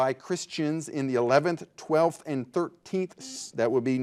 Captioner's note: buzzer buzzing